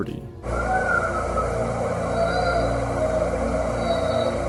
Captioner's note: baby crying sound